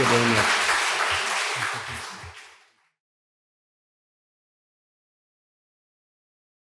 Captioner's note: audience applauding fades